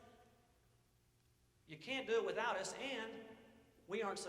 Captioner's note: none